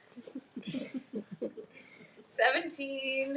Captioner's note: people laughing